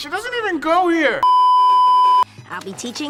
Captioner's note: beeeeeep